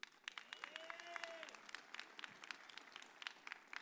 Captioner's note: audience cheers